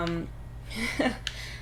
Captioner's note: ironic laughter